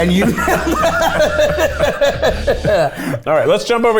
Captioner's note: both laugh